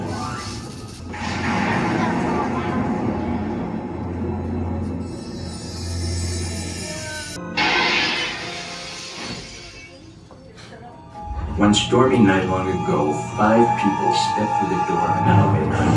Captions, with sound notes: *More Distant Thunder* *Glass Window Breaks* *Elevator Door Closes* One Stormy Night Long Ago Five People Stepped thru the Door of an Elevator